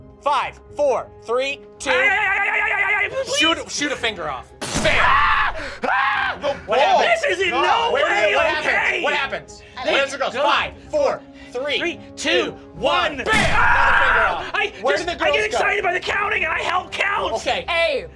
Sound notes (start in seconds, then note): 2.1 stuttering; 4.8 screaming; 13.3 screaming